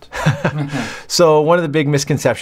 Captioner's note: laughs